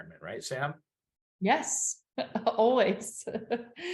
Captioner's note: chuckles